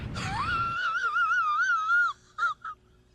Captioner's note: laughs